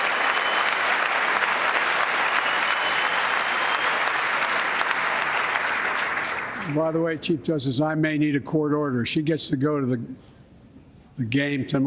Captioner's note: applause